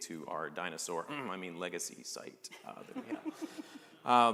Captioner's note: laughter